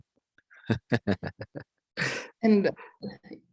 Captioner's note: laughs